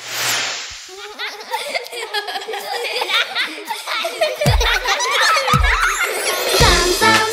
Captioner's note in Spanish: Risas